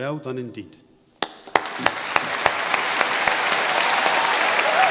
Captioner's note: applause; cheering and applause